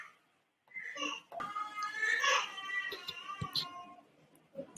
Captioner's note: child crying